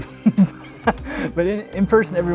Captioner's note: laughs